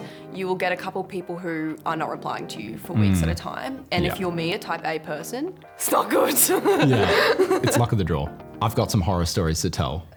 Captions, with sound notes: You will get a couple people who are not replying to you for weeks at a time. And if you're me, a type-A person... it is not good! (Laughs) Yeah. It's luck of the draw. I've got some horror stories to tell.